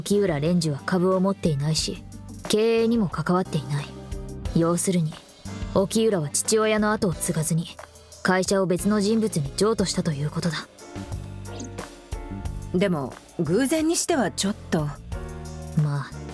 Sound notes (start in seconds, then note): none